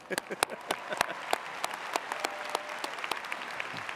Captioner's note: audience applauding